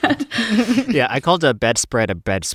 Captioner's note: laughter